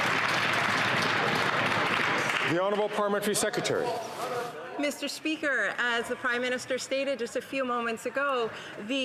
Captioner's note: some Applause